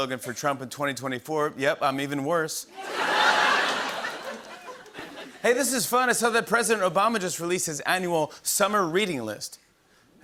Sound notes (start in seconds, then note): 2.8 laughter